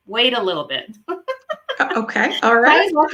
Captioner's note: laughing